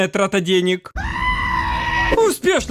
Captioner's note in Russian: крик осла